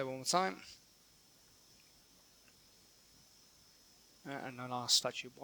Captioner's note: silence